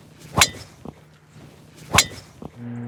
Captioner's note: club whips